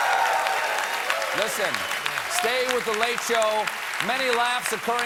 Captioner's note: applause